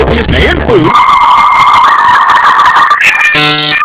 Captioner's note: dial-up tone blares